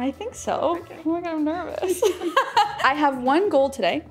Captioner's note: laughing